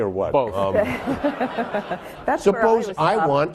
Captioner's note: laughing